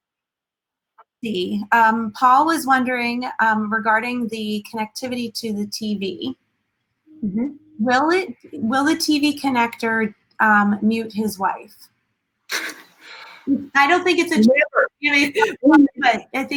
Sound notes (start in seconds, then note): 12.5 chuckles